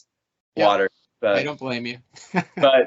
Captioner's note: laughing